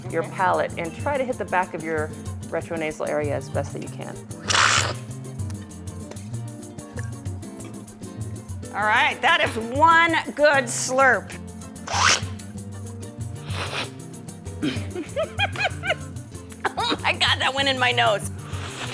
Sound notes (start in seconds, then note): 4.4 slurping; 8.0 lively music; 13.4 slurping; 14.6 laughing; 18.3 slurping